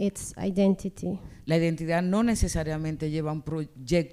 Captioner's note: speaking spanish